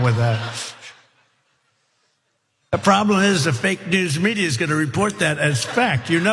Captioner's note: laugh